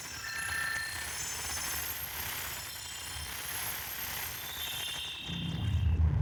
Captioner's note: electronic glitches, whooshes, and beeps